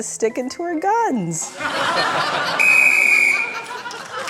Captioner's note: laughter; blows whistle